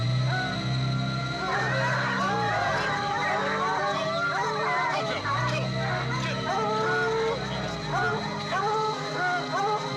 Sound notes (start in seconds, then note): 2.6 dogs barking